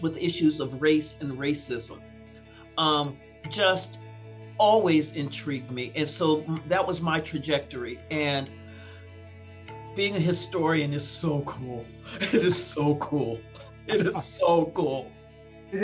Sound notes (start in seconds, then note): 12.1 chuckling; 13.9 chuckling